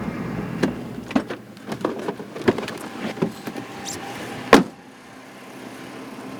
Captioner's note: car door opening and shutting